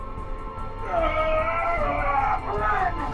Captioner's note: shouts